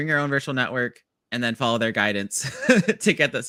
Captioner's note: laughs